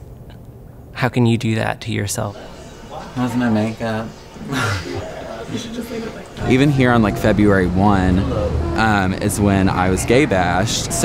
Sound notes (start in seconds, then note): 2.3 party sounds; 4.3 laughs